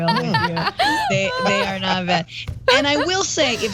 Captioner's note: laugh